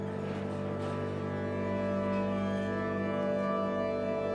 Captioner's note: machines rattling